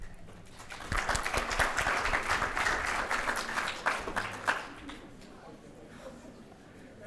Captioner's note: applause